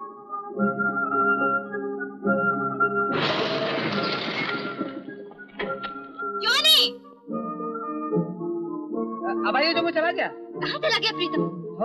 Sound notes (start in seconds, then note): 3.0 brakes squeal